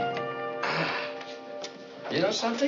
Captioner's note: sighs